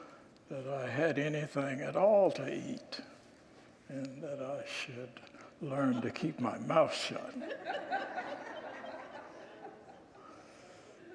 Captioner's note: congregants laugh